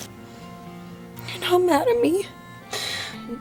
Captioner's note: voice shaking